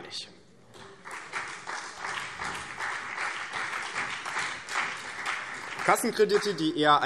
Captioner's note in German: Beifall BÜNDNIS 90/DIE GRÜNEN und vereinzelt CDU